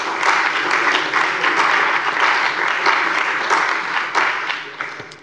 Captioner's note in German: Beifall bei der CDU und dem BÜNDNIS 90/DIE GRÜNEN